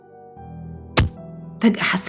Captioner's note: strike sound